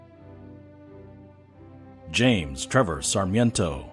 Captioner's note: none